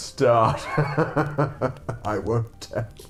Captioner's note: evil laugh